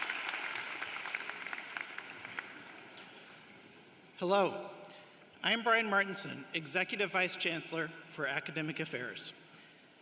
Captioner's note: cheering and applause